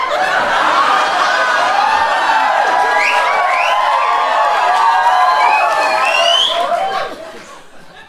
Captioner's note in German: Woooo’s, Pfeifen und Klatschen